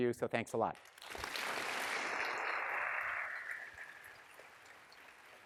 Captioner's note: students clapping